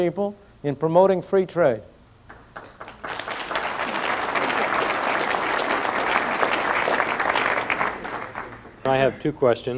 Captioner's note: applause